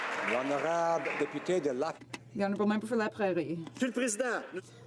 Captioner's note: some Applause